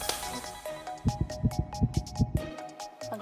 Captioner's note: throbbing